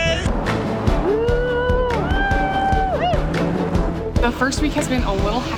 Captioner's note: cheering